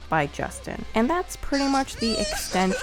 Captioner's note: crying